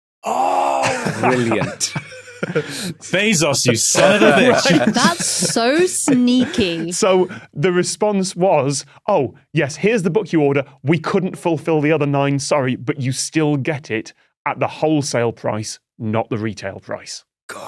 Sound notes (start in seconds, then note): 0.6 guys laughing